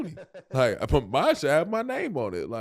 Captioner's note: Rel laughing